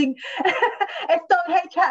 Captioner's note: laughs